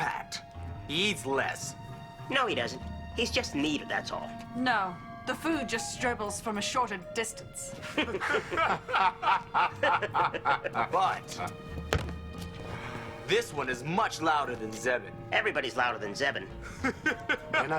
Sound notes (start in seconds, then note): 7.8 laughing; 11.8 thud; 16.6 laughing